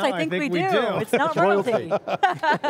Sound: laughs

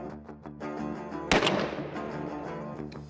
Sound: dramatic music playing; gun shot; dramatic music continues to play

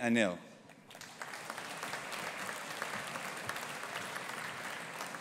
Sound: audience applauding

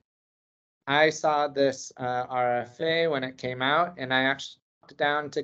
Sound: audio distortion

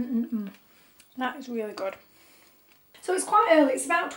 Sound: crunching

